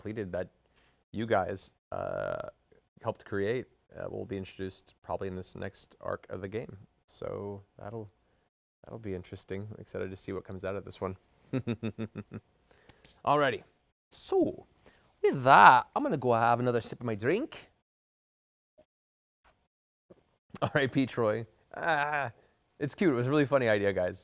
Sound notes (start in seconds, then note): 14.3 laugh